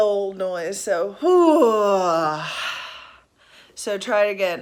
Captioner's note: exhaling